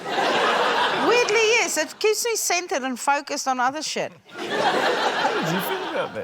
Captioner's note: laughter; laughter